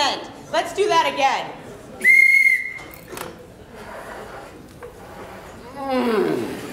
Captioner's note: whistle